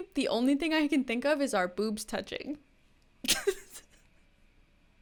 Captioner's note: laughs